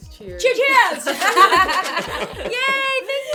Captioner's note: laughter